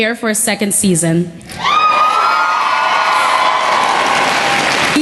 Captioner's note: cheering and Applause